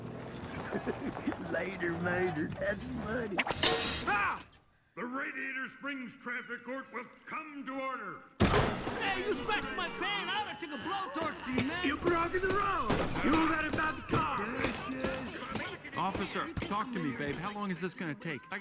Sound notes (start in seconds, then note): 0.4 chuckles; 3.4 banging; 8.4 bangs door open